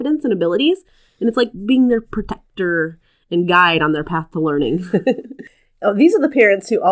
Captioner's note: laugh